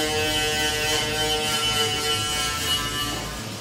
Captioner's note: machines whirring